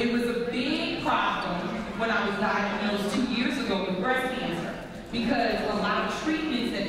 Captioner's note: none